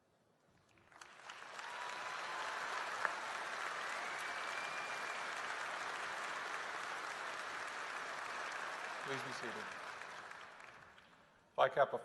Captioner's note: applause